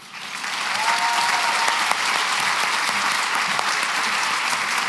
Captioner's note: cheering and applause